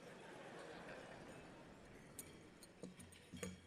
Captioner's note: laughter